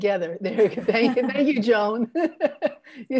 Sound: all laughing

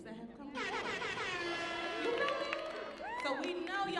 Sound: horn buzzing

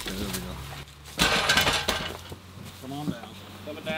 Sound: clanking

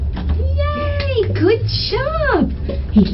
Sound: claps

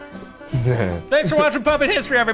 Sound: laughs

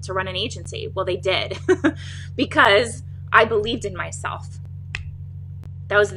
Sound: chuckles

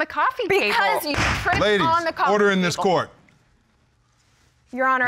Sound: banging gavel

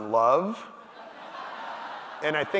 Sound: audience laughing

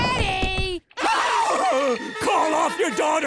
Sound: screaming

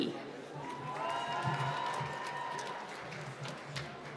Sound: applause

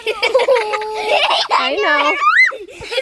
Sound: laugh

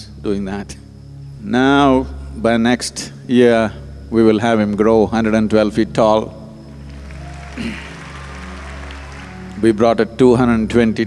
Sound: applause

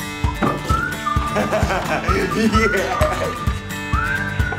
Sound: maniacal laughter

